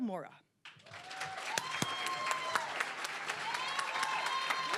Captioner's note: applause, cheering